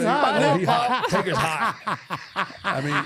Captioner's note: R-Truth laughing